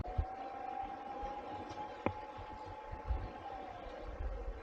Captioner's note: sirens can be heard clearly